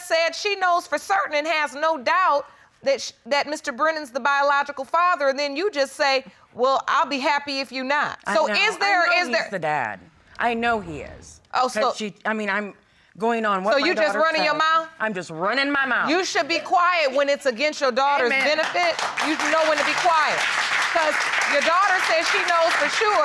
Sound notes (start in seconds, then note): 11.4 stammering; 18.3 audience applauds